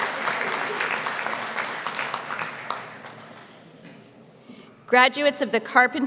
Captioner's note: applause